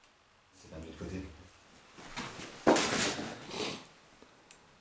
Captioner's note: speaks French